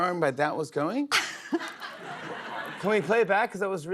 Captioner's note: laughs